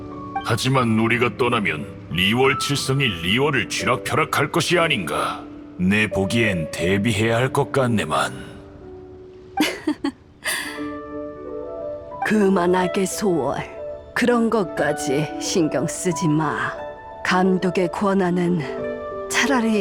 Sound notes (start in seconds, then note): 9.6 chuckles